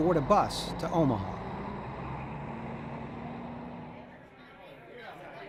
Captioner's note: bus driving away; airport waiting area noises